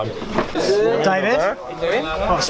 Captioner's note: shouting